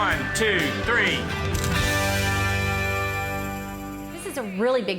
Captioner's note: camera clicking